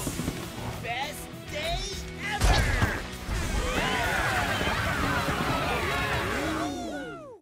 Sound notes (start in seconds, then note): 3.4 cheering